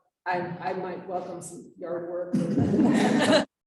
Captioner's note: chuckling